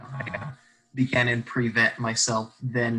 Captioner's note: choppy audio